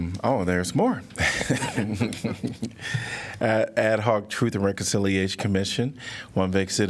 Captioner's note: laughter